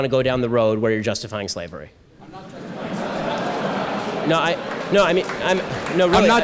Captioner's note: audience laughter